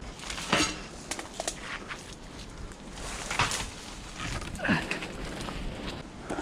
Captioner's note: leaves rustling; metal clanking